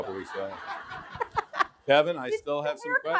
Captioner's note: audience laughing